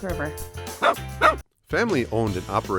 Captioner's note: dog barking